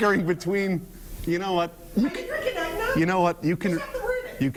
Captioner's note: laughter